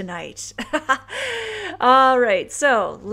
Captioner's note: laughs